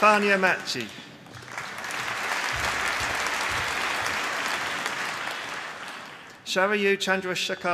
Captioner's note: applause